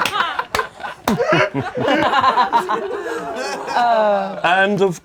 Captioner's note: laughing; chuckling gently